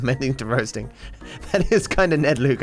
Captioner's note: laughs